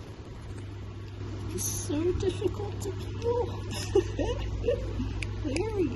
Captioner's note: laughter